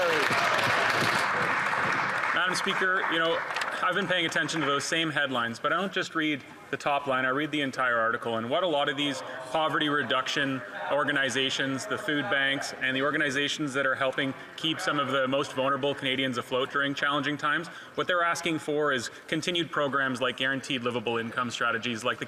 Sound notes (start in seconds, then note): 1.9 some Applause